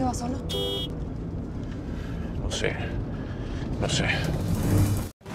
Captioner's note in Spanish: Claxon